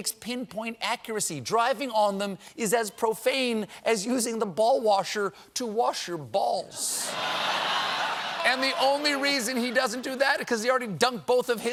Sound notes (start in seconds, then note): 6.9 laughter